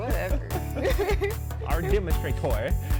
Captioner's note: laughs